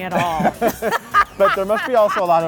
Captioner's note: laughing